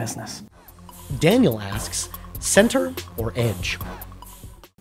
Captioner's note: voiceover